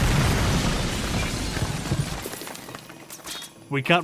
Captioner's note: yet another explosion